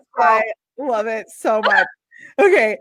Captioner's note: laughs